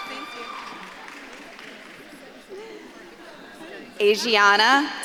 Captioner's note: audience clapping